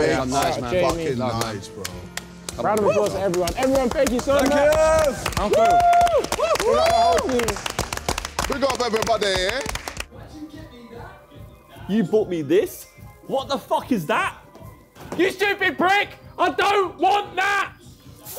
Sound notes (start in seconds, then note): 4.3 everyone applauding